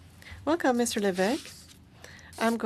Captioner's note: speaking French